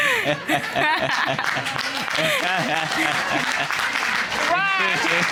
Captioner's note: all laughing; audience applauding